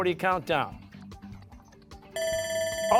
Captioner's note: buzzer